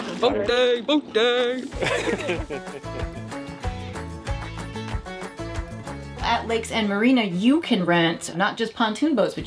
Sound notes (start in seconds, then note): 1.6 laughs; 4.4 upbeat music